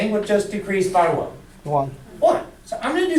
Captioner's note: voiceover